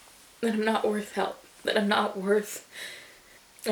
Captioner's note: inhales raggedly